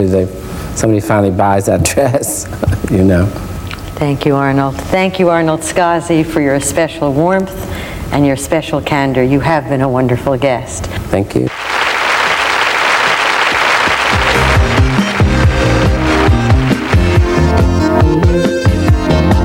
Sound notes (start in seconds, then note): 11.5 audience applauding; 13.6 upbeat tempo music